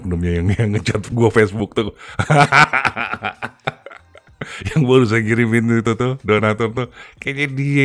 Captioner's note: laughs